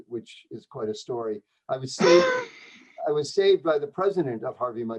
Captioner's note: laughter